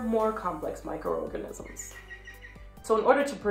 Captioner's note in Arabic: زقزقة الطيور